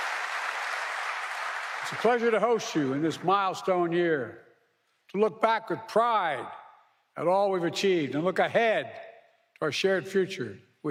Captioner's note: applause